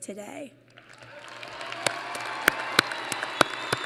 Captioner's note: applause